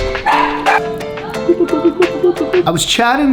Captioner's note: dog barking